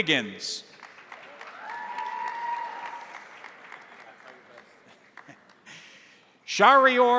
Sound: crowd applauding; crowd cheering

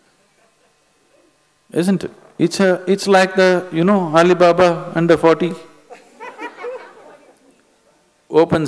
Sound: laughter

